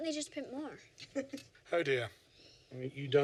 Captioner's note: Violet laughs